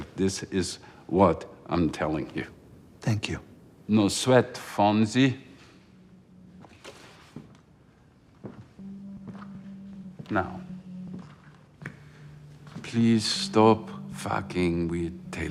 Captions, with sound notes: This is what I'm telling you. - Thank you. - No sweat, Fonzie. (suspenseful music) (footsteps plodding) Now, please stop fucking with Taylor Mason.